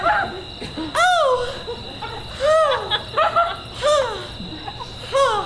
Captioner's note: sighing